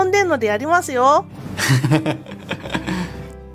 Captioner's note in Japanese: 羽生結弦の笑い